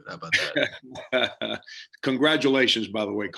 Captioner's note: laughs